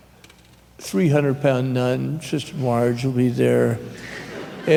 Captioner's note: subdued laughter